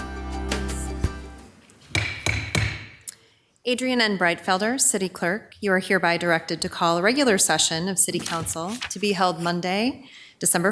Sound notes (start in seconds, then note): 1.9 gavel banging